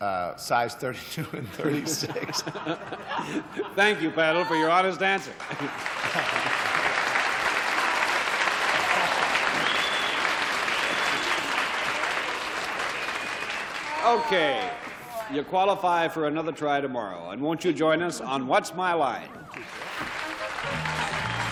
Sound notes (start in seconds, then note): 3.7 laughter; 7.2 cheers, applause